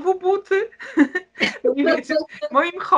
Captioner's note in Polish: śmiech